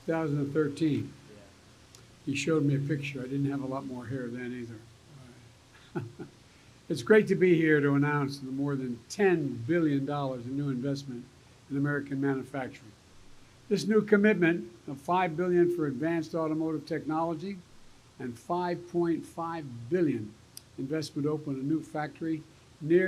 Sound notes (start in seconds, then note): 5.8 laughs